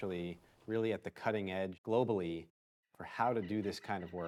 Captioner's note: animals calling